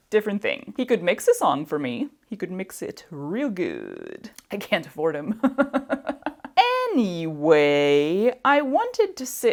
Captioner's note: laughs